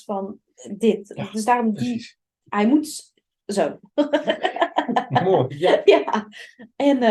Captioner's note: laughing Sounds